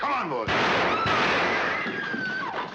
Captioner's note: gun shots; screaming